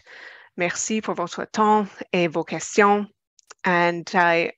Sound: speaking french

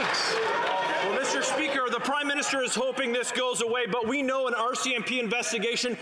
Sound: some Applause

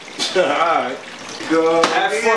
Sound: clap sound

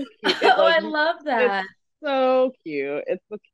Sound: laughs

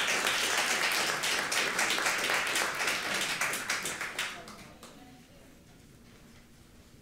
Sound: applause

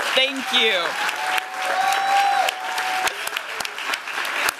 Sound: applause and cheers

